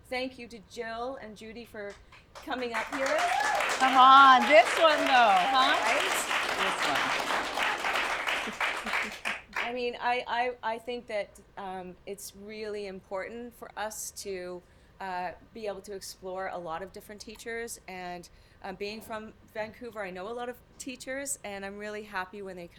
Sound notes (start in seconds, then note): 9.6 applause